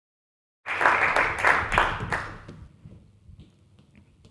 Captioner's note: audience clapping